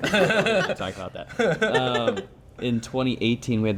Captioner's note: everyone laughing